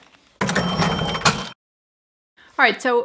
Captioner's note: cash register dings